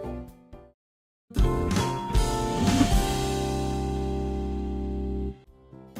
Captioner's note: monkey sounds